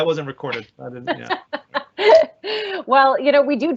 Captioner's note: laughing